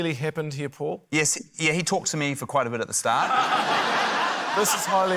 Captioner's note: laughter